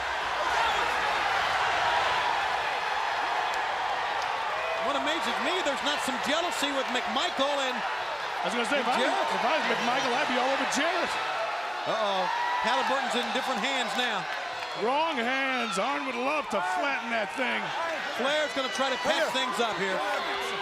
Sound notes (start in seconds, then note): 1.8 crowd cheering